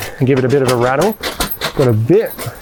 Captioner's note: bag rattling